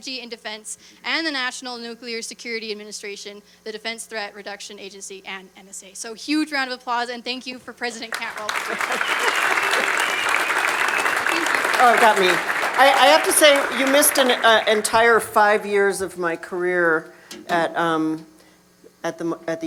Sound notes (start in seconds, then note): 8.1 cheers, applause